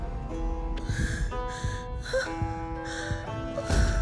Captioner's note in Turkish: Hızlı nefes alıp veriyor